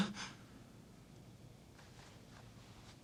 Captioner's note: moans